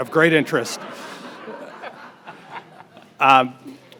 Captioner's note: audience laughs